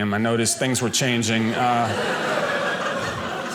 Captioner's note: audience laughing